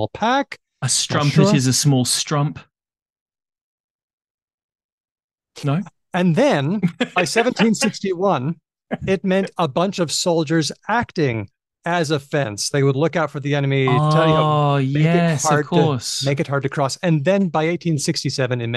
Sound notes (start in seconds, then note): 4.0 laughs; 4.7 long pause; 6.8 laughs